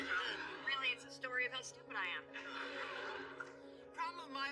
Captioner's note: laughs